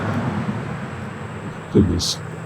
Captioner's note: traffic droning